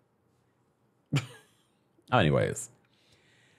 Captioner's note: host giggles